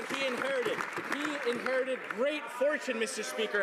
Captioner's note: some Applause